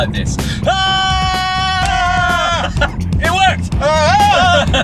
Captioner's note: screams; screams back and laughs